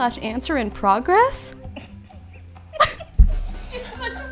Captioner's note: all laughing